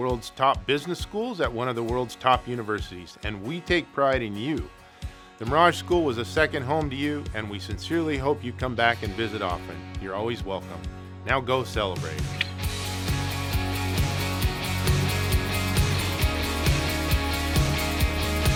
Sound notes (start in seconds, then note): 12.3 clicks